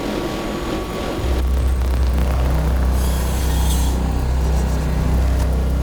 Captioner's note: electronic glitches and noises